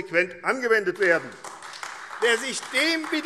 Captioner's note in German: Beifall AfD